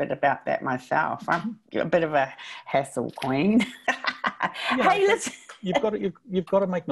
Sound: laughs

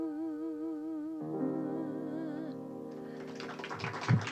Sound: applause

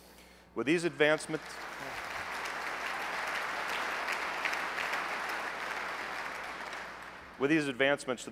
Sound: applause

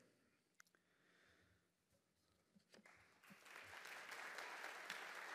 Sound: audience applauding

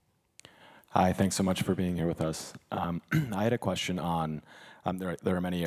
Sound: cough

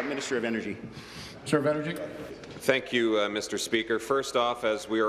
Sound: applause

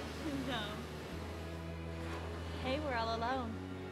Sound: laughing

